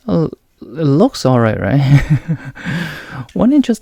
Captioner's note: chuckles